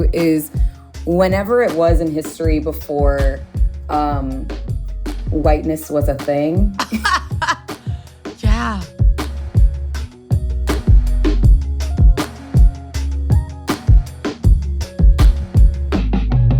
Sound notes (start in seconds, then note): 6.7 laughs; 9.0 soft upbeat music